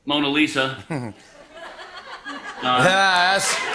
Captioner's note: laughter